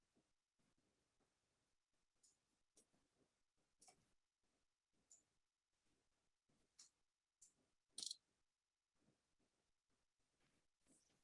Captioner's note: short silence